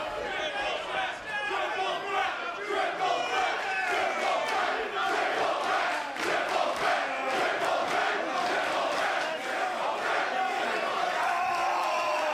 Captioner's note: crowd cheering